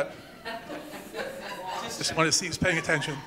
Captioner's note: laughs